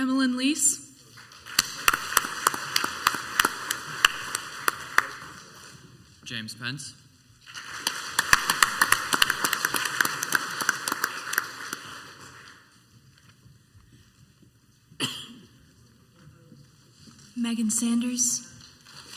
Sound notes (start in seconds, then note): 1.4 crowd applauds; 7.4 crowd applauds; 15.0 person coughs once